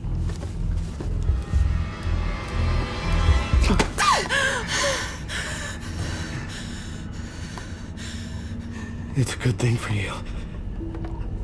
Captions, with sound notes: (Belinda gasping) - It's a good thing for you,